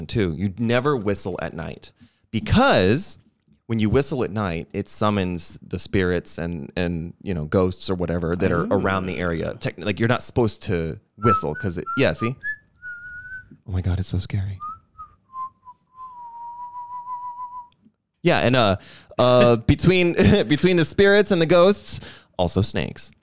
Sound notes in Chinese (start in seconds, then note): 11.2 a：吹口哨中